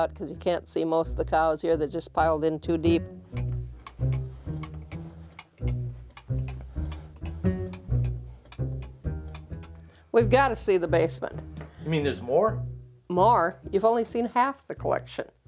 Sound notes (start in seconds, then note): 3.7 cow toy clanking; 3.7 playful music